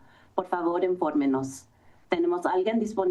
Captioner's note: foreign language